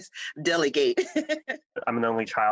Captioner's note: laughter